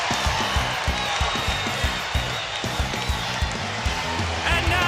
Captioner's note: crowd cheering